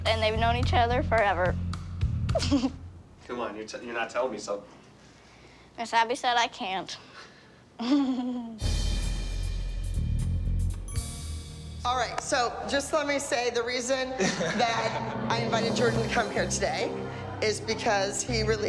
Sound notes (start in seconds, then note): 2.3 laughs; 7.8 giggles; 14.1 laughs